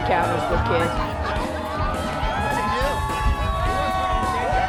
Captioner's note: crowd cheering